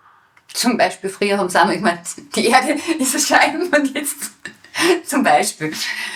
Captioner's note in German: Lachend